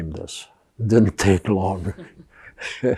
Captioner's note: laughing